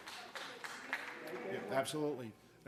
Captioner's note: applause